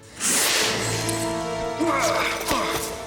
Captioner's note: hissing